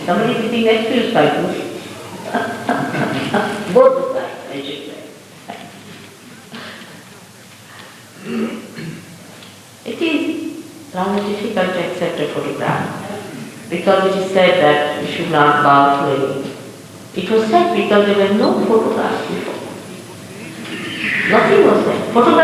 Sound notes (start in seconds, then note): 1.7 laughs